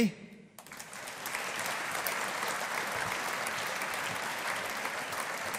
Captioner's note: audience applauding